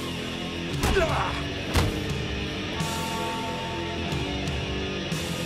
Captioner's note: Undertaker grunting